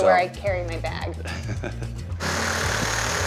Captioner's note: laughs; whirring sound